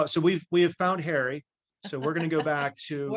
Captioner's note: laughs